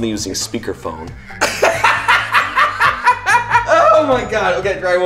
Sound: laughs

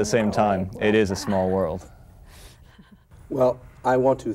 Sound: Vera laughs

